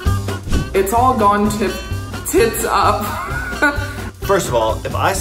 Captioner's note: laughs